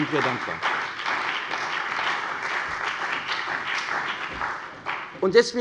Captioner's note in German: Beifall bei der CDU und dem BÜNDNIS 90/DIE GRÜNEN